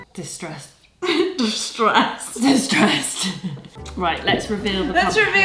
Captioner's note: laughs